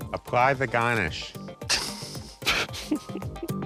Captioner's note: both laughing